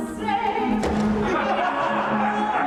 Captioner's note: performers laughing